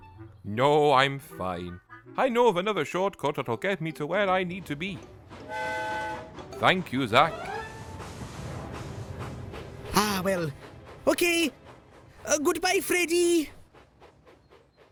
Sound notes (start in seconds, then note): 5.5 freddie whistles